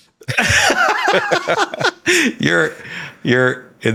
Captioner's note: Hank and Sam laughing